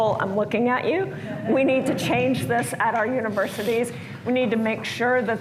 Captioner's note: laughter